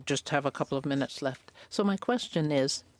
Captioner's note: speaking French